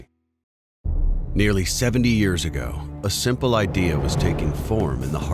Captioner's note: voiceover